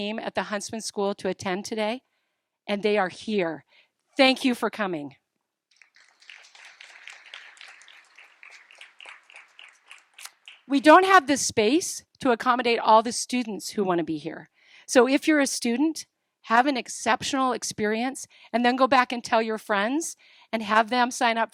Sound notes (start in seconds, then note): 9.7 applause